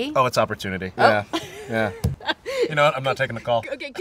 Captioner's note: laughs